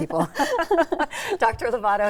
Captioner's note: both laughing